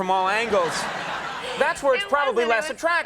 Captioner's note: audience laughing